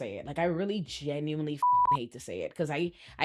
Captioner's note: beep